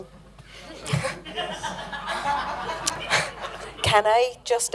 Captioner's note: laughter